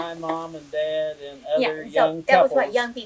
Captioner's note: laughs